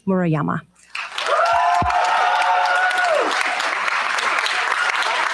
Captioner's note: cheers, applause